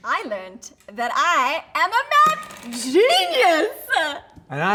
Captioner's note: none